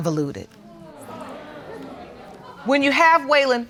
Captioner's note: audience exclaiming